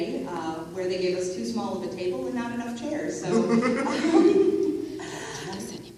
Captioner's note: laughs